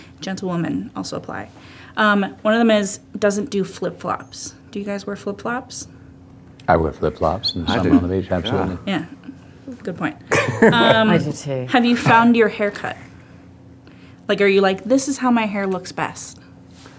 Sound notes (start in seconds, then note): 10.3 laughing